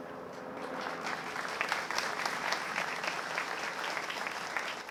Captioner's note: applause